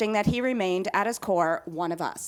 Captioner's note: none